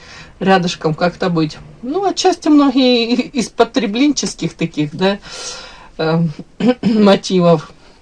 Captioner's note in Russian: откашливается